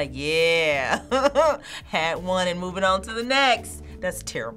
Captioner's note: laughing